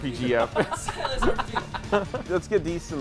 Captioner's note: laughter